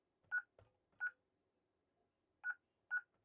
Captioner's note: beeping